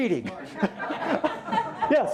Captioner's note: laughter